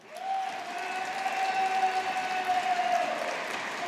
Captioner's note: audience applauding